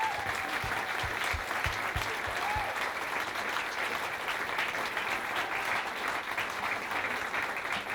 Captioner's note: applause